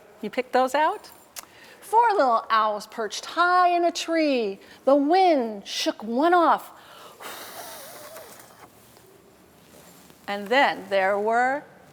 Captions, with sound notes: You picked those out? Four little owls perched high in a tree. The wind shook one off. [Blowing air] And then there were